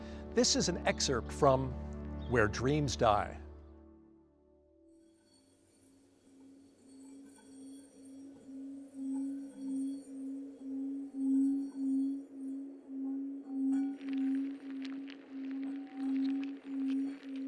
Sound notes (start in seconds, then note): 7.2 low-pitched whistle; 13.8 insects scuttling